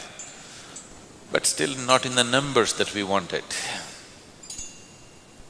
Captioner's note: rings the bell